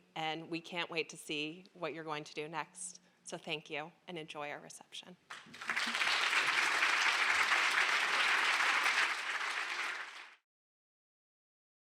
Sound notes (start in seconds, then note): 5.3 applause